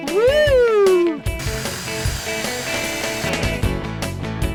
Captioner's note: electric drill buzzes